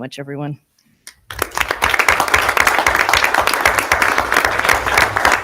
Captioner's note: audience applauding